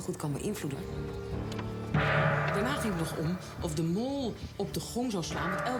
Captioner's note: loud gong